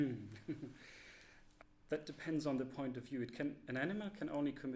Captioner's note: laughter